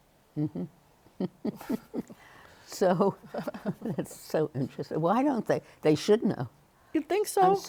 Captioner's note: chuckles